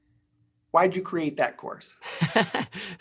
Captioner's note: laughing